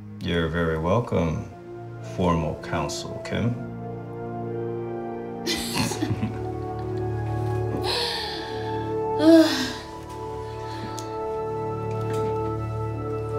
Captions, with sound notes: You're very welcome, formal counsel Kim. [laughs] [relieved sigh]